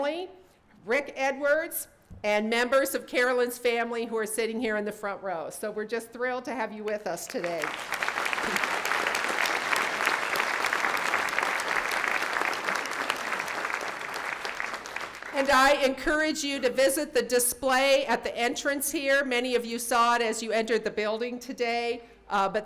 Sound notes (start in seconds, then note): 7.2 audience clapping